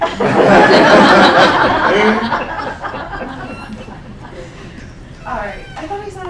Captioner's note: laughing